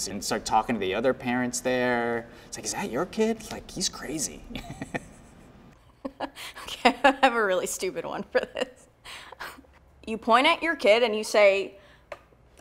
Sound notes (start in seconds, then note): 4.5 laughs